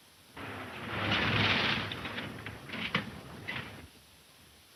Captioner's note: engine puttering